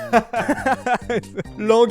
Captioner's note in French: Rigole beaucoup